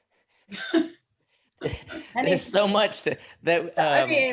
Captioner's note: laughter